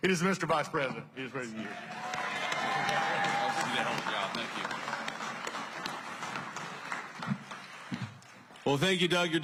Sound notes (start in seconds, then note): 1.6 applause